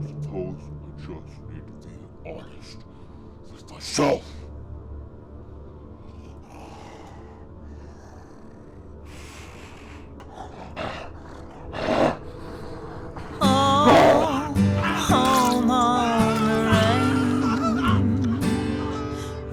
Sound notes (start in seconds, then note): 11.1 grunts and snarls; 14.8 miles screams